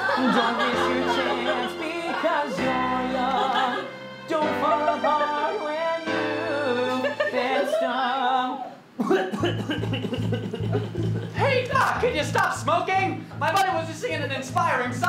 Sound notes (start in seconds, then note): 9.0 Adam coughing